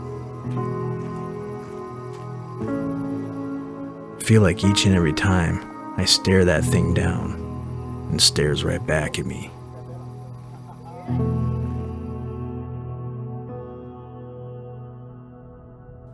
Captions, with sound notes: - [Voiceover] I feel like each and every time I stare that thing down, it stares right back at me.